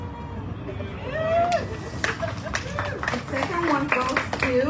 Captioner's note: audience cheering, applauding